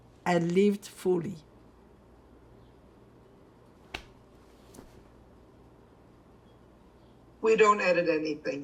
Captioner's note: pauses 6 seconds